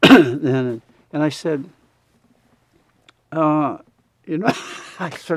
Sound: laughs

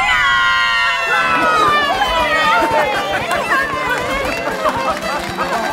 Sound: cheering; laughing; audience applause

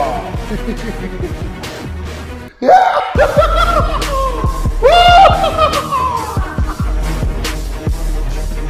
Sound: laughing

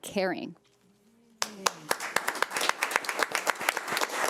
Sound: audience clapping

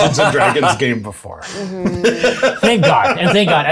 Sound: self-assured cackle

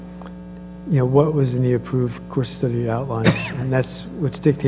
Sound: cough

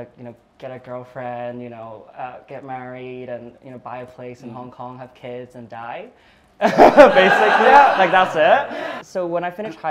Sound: laughter

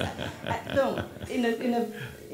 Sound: chuckles

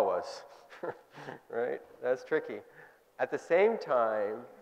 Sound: chuckling

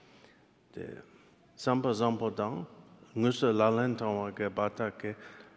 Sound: speaking in foreign language

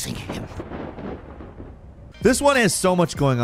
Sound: thunder crashing

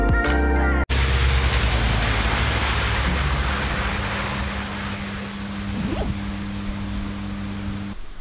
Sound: sound of heavy rain

